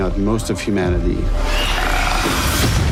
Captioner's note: infected screeches